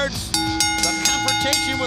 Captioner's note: bell ringing